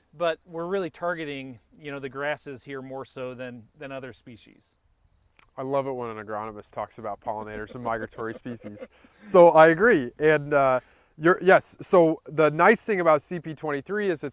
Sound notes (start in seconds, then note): 7.3 laughs